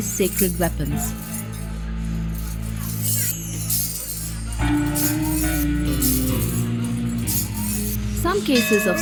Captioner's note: iron chains clanking; enigmatic music